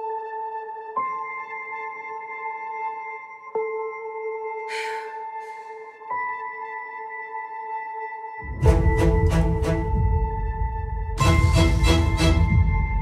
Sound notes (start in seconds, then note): 4.7 determined exhale